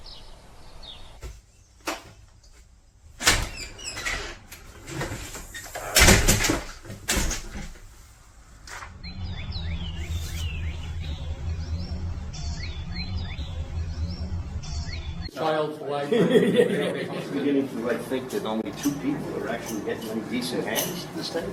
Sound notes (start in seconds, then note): 0.0 birds chirping; 3.2 door clicks; 5.6 door bangs; 8.8 birds chirping; 15.9 group chattering